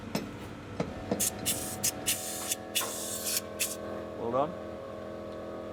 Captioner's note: pump spraying